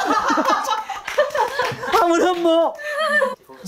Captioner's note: giggling